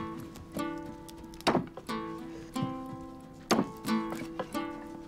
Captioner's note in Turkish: Satır sesi